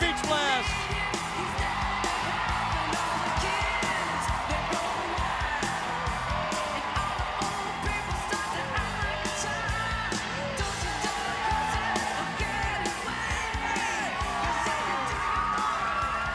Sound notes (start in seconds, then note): 1.6 crowd cheering